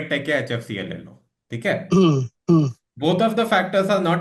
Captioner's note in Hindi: गला साफ़ करने की आवाज़